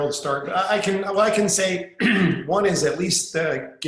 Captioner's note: clearing throat